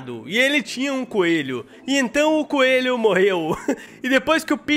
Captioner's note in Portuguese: risos